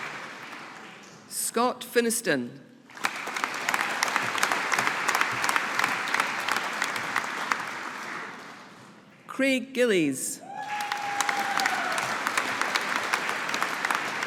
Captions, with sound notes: Scott Finnieston. (AUDIENCE APPLAUDING) Craig Gillies. (AUDIENCE APPLAUDING)